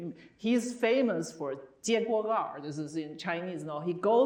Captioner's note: speaking Chinese